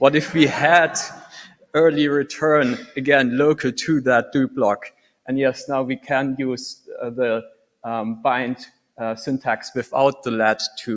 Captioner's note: laughter